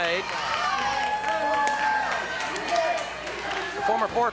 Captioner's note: audience cheers